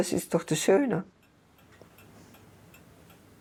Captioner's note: regular ticking